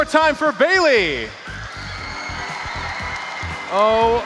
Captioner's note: crowd cheering